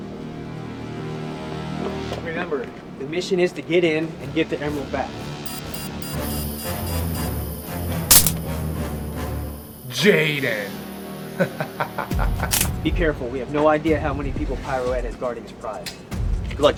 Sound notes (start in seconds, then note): 5.4 device beeping; 11.3 laughing